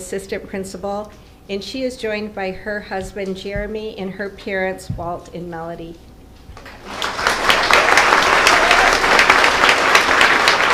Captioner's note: applause